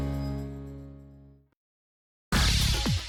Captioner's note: none